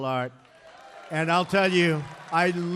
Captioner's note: applause